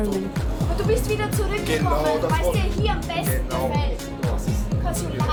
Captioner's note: speaking German